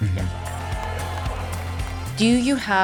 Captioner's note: crowd cheering